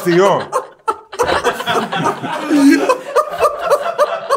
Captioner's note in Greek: γέλια